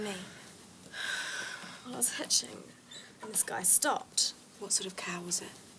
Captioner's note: sighs